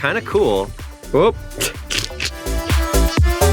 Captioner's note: chuckles